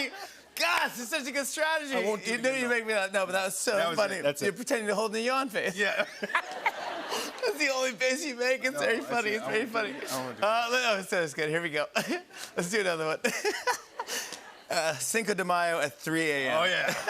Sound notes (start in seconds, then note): 5.8 laughter; 13.2 laughter; 16.8 laughter